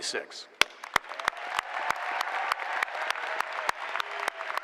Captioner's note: applause